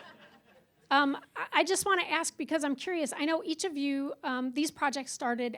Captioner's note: laughter